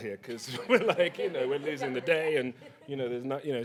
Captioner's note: laughs